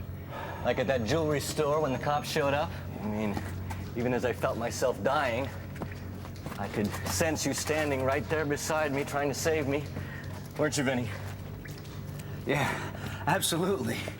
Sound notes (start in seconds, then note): none